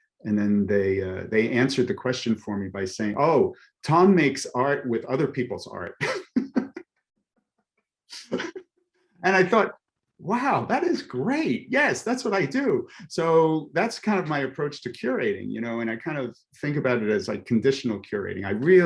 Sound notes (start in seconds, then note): 5.8 laughs